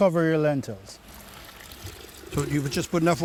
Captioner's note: water pouring